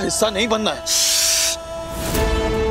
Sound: shushing; dramatic music playing

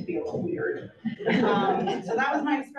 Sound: audience laughs

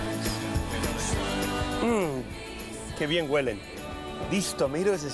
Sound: spanish

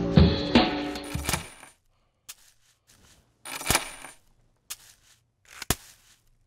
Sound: gentle r&b music; metal clanking and bag scrunching

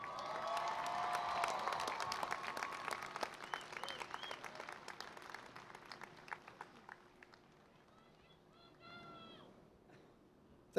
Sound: cheering and Applause

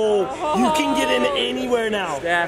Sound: mom laughs

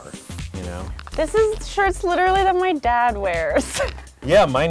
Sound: laughs

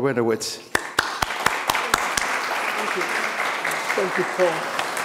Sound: applause

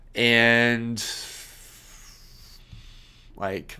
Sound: exhales

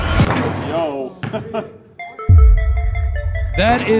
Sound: ball bouncing; ball thudding; ball bouncing; man laughing

